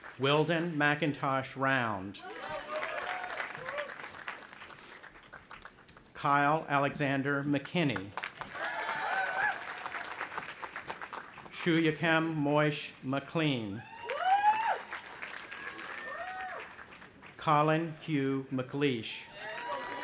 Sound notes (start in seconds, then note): 2.2 audience applauding; 8.1 audience applauding and cheering; 13.7 cheering